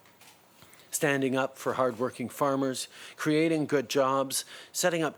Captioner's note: speaking in French